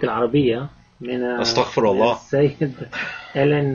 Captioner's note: speaking Arabic